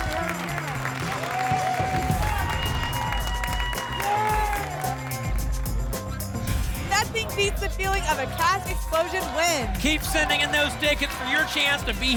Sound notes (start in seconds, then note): 1.8 whoosh; 2.7 applause and cheering cont